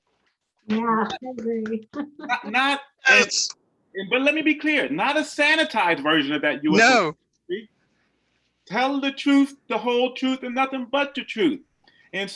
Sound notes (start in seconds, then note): 0.8 cheering softly